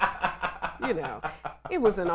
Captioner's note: laughs